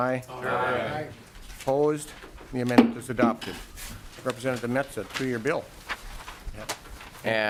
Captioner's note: chorus of ayes